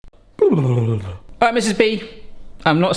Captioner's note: burbles